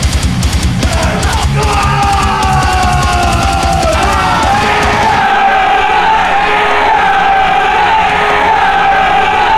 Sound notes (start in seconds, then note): 0.8 scream; 3.9 audience cheering